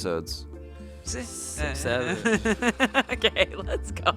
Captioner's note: laughs